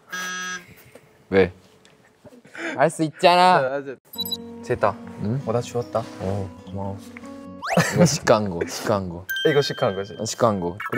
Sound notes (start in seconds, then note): 7.7 laughs